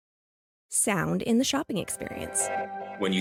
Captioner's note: transition Sound